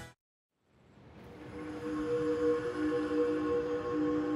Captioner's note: train engine chugging in distance